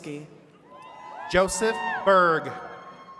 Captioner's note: attendees cheering